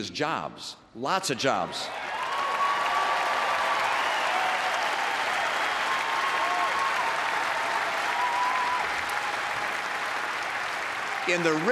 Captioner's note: applause